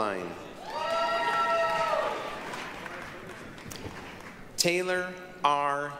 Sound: applause, cheering

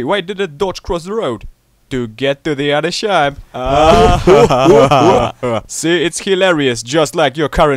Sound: laughs

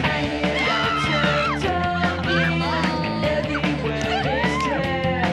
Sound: indistinct group talking; upbeat rock music

